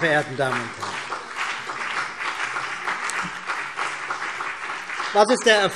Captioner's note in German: Beifall BÜNDNIS 90/DIE GRÜNEN